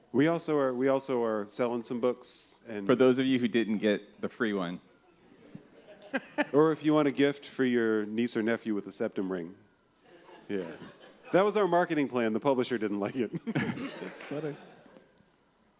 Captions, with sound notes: We also are selling some books. For those of you who didn't get the free one. [laughter] Or if you want a gift for your niece or nephew with a septum ring. [laughter] That was our marketing plan. The publisher didn't like it. [laughter] That's funny.